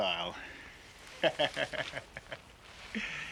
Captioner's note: laughing